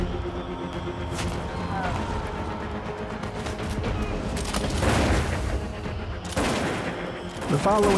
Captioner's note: gunfire